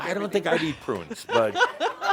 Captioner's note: she laughs